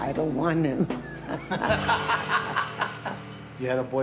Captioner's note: laughing